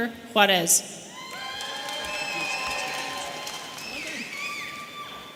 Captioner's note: audience cheering